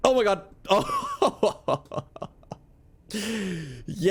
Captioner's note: giggle